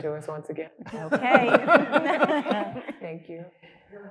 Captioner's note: panelists laughing